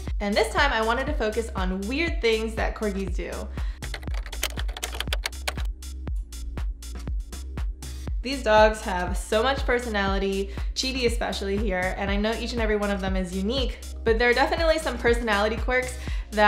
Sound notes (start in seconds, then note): 3.8 typing; 6.2 upbeat music